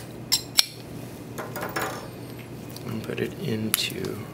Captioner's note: metal cover clinks